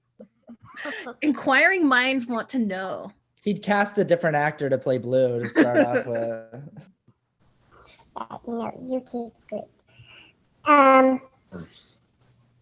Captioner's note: laugh